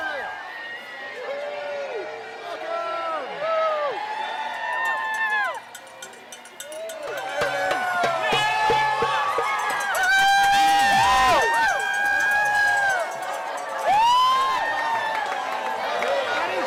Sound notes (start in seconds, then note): 0.1 whooping; 6.6 drum beating and cheering; 9.9 cheering, shouting, and whooping; 14.8 cheering, clapping